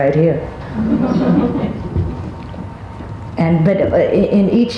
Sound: audience laughs

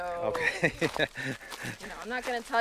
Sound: laughs

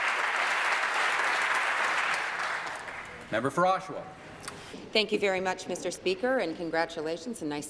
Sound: applause

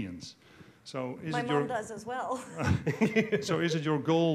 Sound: laughing

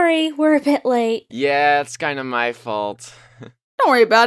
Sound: laughs

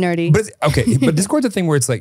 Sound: laughs

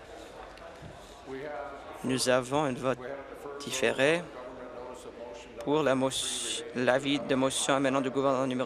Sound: applause

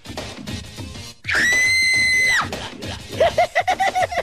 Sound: woman screaming; silly laugh

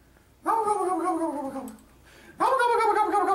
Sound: immitating a turkey gobble

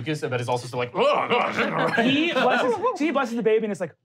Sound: groaning

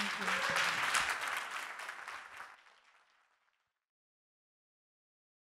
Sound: audience applauding

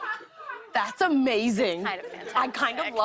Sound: laughter

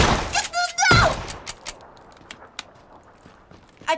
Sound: gun clicking

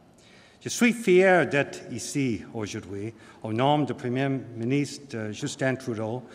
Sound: speaking french

